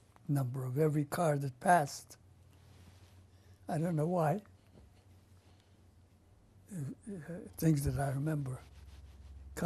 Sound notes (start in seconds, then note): 5.3 pauses for 3 seconds